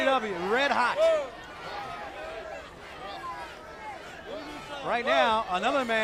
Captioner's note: crowd chatter